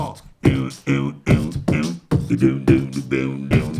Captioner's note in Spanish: hace beatbox